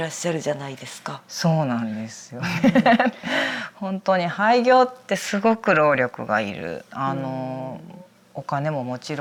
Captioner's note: laughs